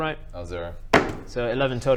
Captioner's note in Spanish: golpea el teléfono